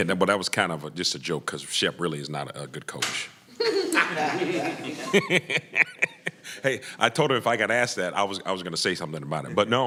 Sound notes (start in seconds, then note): 3.5 laughter